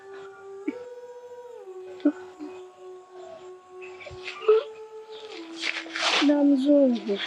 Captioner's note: sobbing